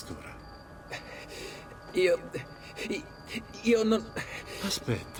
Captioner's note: breathing heavily